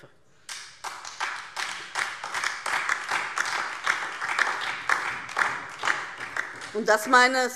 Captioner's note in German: Beifall